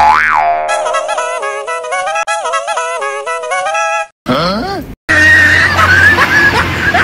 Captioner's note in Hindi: हंसते हुए